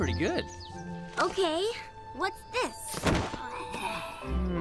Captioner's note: thud